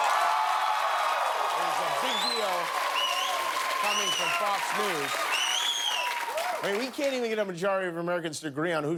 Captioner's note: cheers and applause